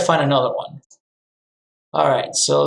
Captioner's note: mouse clicking